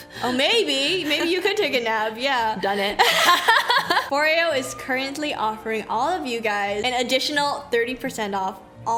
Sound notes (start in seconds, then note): 3.0 laughs